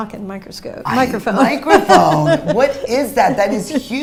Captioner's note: laughs